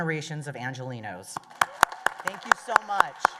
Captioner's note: applause